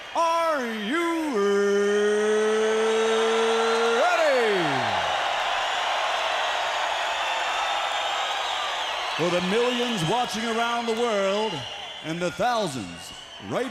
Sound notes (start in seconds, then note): 2.1 crowd cheering